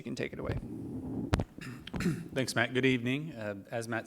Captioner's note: clears throat